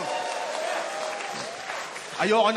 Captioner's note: cheering, applause